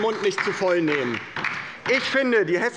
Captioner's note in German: Beifall bei der LINKEN